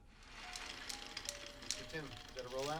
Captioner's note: tapes rolls